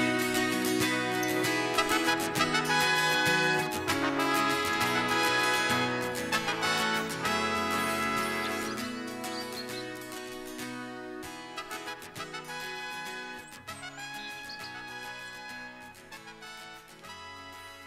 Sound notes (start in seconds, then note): 1.4 accomplished music fades; 7.7 bird chirps